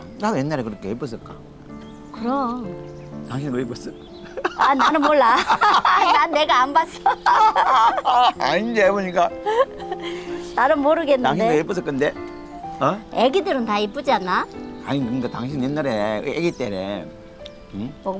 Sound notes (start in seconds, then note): 6.8 both laughing